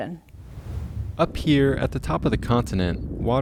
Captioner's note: air whooshing